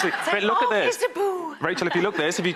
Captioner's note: audience laughs